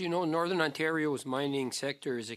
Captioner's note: speaking French